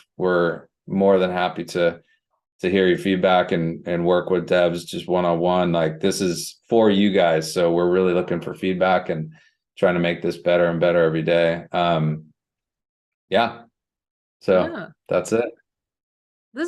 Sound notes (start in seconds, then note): none